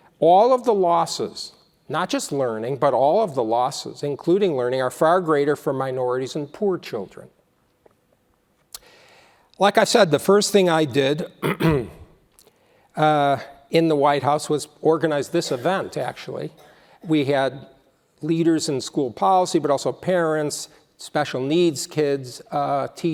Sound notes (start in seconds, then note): 11.3 cough